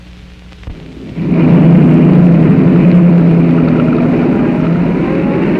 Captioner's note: engine revving